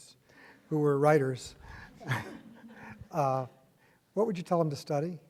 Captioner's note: chuckles